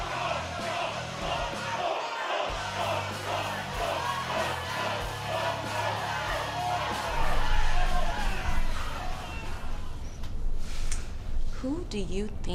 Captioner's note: fans chanting